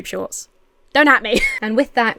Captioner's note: Emma laughs